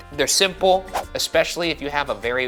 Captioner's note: graphic whooshing